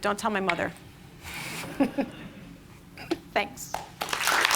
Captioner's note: laughter; applause